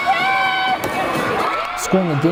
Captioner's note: clapping and cheering